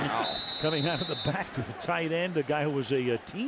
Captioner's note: whistle blows